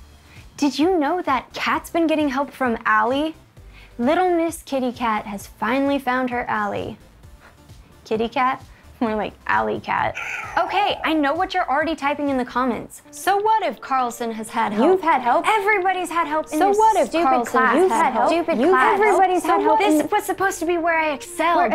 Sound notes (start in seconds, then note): 9.9 cat screaming; 17.7 overlapping voices speaking